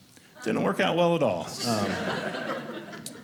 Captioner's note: audience laughing